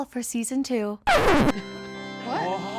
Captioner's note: record scratches; somber organ music